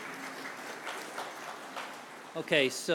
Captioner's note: applause